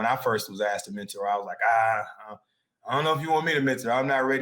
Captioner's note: groans